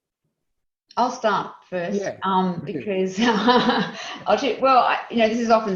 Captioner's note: laughing